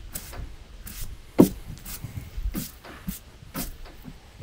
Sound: broom sweeping

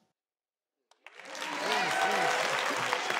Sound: cheering

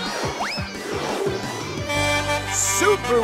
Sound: horn honking

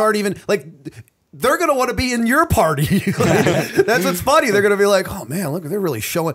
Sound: chuckle

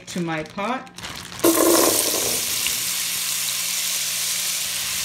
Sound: potatoes sizzling

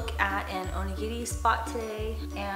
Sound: speaking foreign language

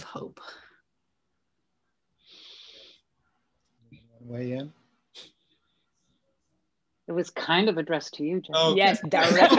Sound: laugher

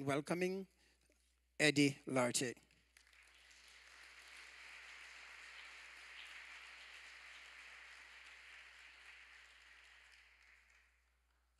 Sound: applause

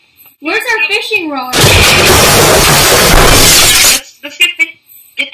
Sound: explosion

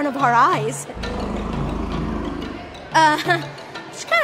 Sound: dinosaur growl

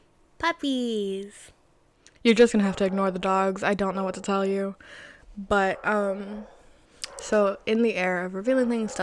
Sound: dogs barking in the distance

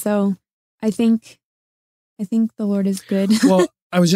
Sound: laughing

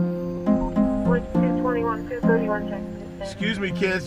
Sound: police car starts; police radio chatters

